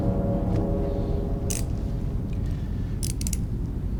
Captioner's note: cuffs click